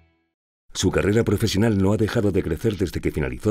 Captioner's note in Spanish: Voz en off